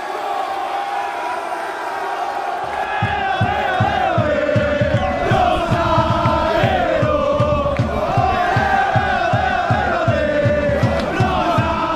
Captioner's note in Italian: Applauso